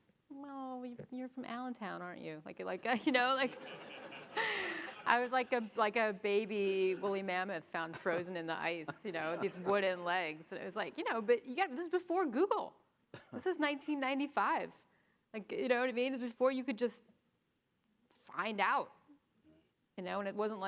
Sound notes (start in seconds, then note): 3.4 audience laughing